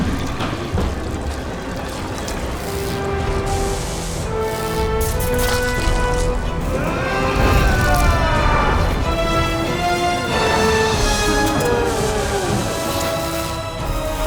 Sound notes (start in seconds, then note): 0.0 high pitched whirring; 1.6 grunting; 4.1 whooshing; 6.6 grunting; 9.1 dripping water; 14.1 grunting